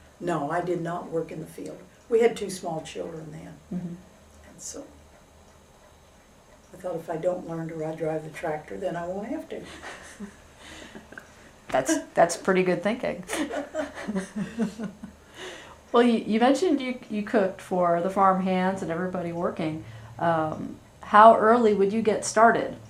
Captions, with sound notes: No, I did not work in the field. We had two small children then. I thought, “If I don’t learn to drive the tractor, then I won’t have to.” (Laughs) That’s pretty good thinking. (Laughter) Well, you mentioned you cooked for the farm hands and everybody working. How early would you get started?